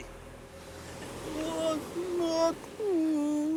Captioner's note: groaning